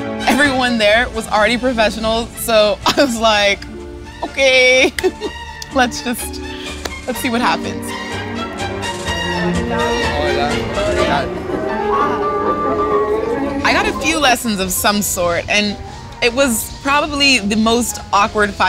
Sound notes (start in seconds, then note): 4.8 laughs; 10.3 man greeting woman in Spanish